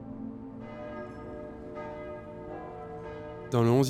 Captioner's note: church bells